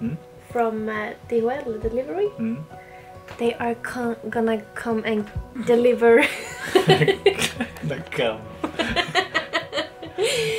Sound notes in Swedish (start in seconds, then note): 6.3 Skratt